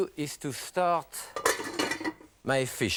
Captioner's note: pan clanks